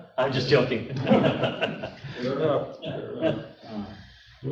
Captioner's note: laughing